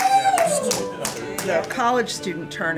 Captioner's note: cheering and applauding